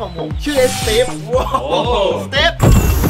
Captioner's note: chuckles